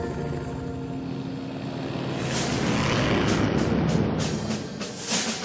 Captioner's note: plane motor rumbling